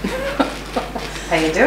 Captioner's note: laughs